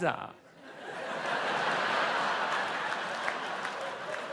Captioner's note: audience laughs